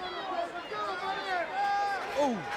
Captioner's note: crowd chattering